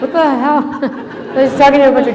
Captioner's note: laughter